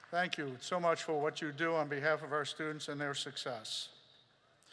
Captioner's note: applause